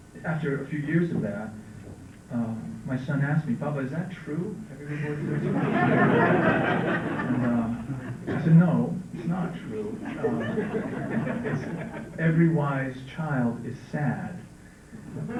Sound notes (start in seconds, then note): 4.9 laughter